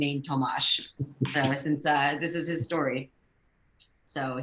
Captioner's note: laughs